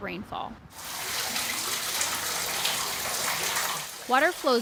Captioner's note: water sloshing